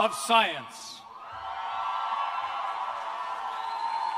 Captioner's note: cheers and applause